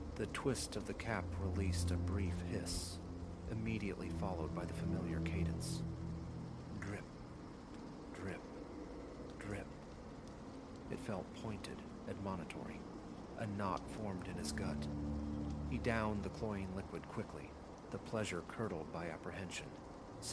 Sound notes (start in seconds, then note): 6.9 drip... drip... drip